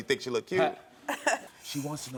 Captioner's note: both laughing